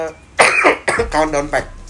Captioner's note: coughs